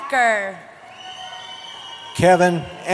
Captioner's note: cheering